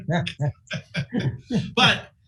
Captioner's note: laughing